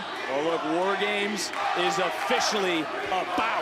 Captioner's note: crowd cheering